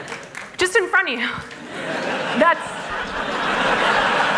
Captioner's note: laughter